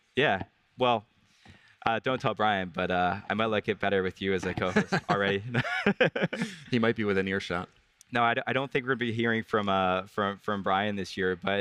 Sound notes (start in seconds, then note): 4.4 both laugh